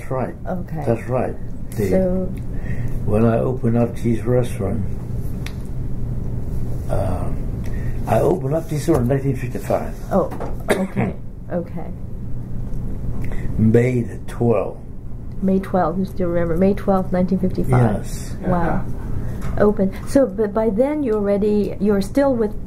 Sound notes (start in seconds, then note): 5.8 coughs